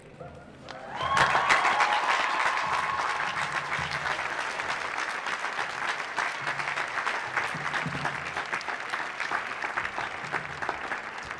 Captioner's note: applause